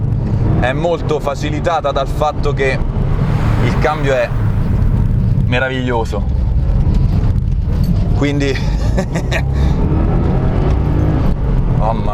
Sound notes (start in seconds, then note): 8.9 laughter